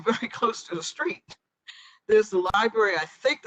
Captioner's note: laughter